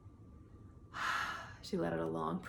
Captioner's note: sighs